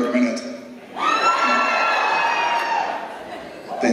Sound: cheers

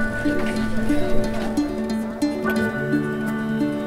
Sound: murmuring

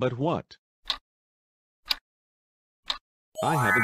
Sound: clock Ticking

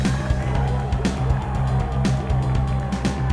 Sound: applause

